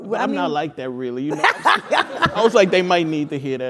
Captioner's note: laugh